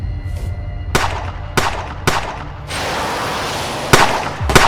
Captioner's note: gun shoots